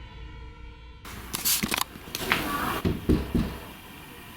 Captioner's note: three knocks